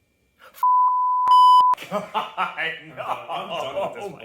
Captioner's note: beeps